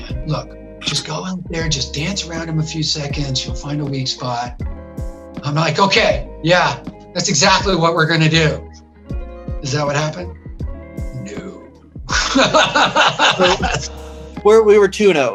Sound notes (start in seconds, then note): 12.1 laughs